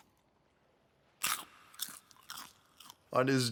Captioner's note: CRUNCH, munch, munch